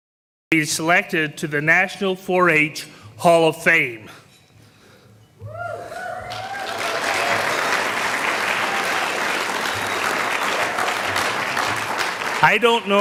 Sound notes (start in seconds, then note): 5.5 sound of cheers and applause from the audience